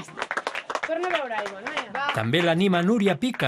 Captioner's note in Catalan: aplaudiments